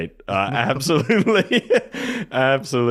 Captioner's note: laughs